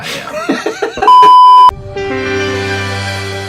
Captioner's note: laughing